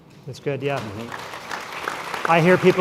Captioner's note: applause